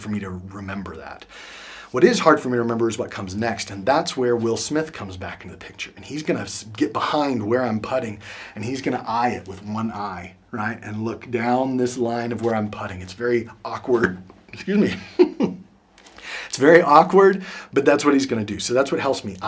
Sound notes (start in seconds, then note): 14.6 laughs